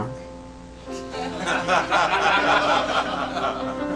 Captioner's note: laughs